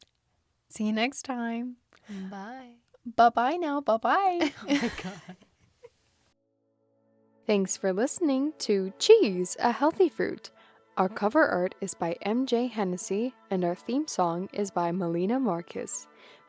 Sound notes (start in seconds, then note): 4.4 both laugh